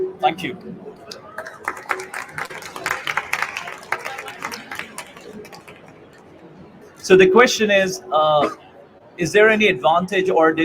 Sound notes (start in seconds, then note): 1.1 applause